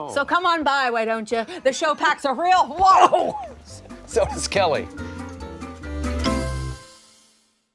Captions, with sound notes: - Some come on by, why don't ya? The show packs a real wallop. (groans) - So does Kelli.